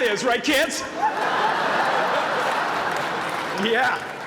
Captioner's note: laughter